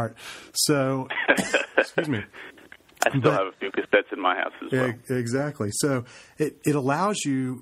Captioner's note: laughs